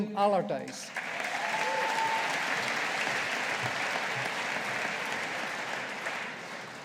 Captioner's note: audience applauding